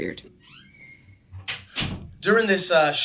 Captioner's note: door creaking